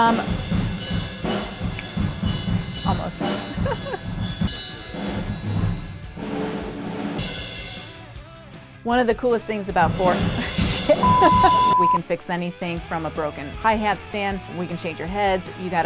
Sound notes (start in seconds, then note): 0.2 drum kit resonating; 3.4 chuckles; 4.2 drum kit resonating; 9.8 drum kit resonating; 11.0 beeps